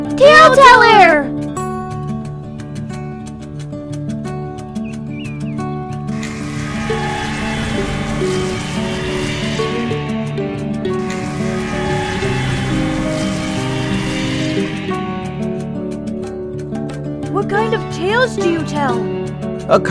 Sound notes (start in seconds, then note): 4.6 birds chirping; 6.2 wind whirring